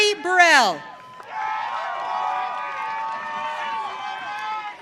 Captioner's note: audience cheering